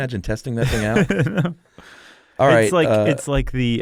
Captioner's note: laughs